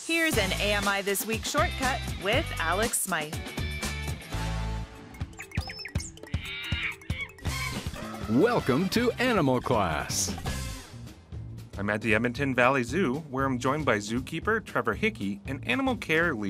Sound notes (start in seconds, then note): 6.2 animal sounds